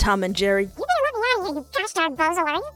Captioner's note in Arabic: صوت صغير